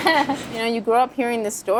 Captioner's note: laughing